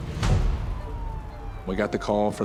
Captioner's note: siren wailing